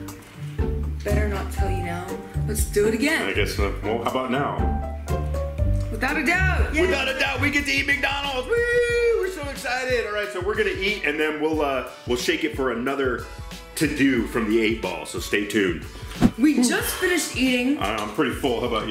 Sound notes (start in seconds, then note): 16.2 sighs